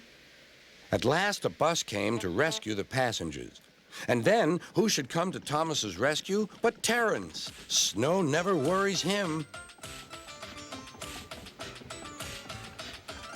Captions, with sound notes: AT LAST A BUS CAME - TO RESCUE THE PASSENGERS. - ( honks ) AND THEN WHO SHOULD COME TO THOMAS'S RESCUE BUT TERENCE! SNOW NEVER WORRIES HIM.